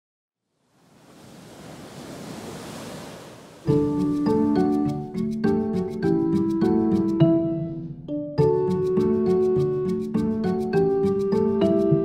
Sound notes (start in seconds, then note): 0.6 waves rushing